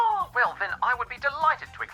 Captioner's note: none